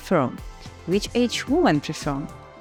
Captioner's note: Ukrainian